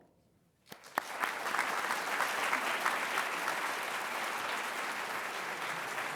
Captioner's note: applause